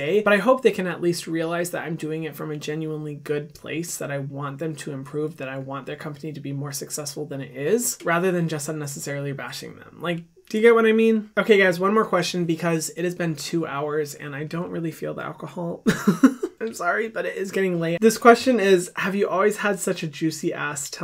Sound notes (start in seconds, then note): 15.9 laughing